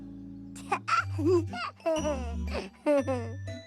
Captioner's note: laughing